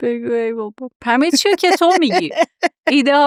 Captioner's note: laughs